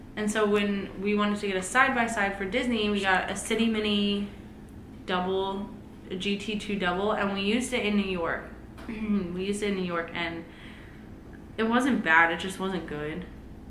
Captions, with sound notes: And so when we wanted to get a side by side for Disney, we got a City Mini Double - a GT2 Double and we used it in New York. [Clears throat] We used it in New York and- it wasn't bad, it just wasn't good.